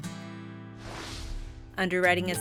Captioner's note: air whooshes